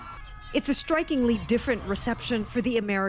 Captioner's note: none